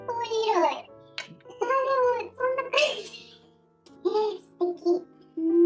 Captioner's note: laughs